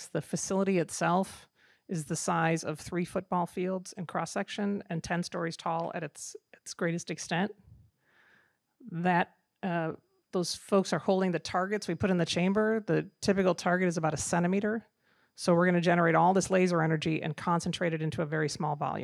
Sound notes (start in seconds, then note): none